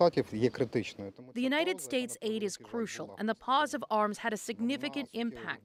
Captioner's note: speaking alternate language